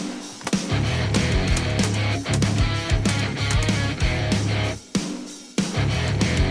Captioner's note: upbeat guitar rock music; rapid gun shots; upbeat guitar rock music